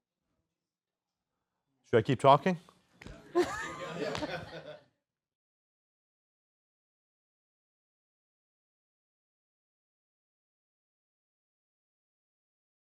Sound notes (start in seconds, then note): 8.6 silence